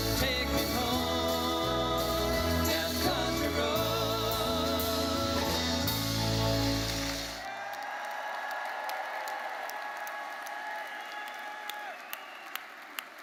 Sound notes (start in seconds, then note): 6.9 audience cheering and applauding